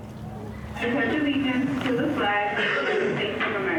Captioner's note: over intercom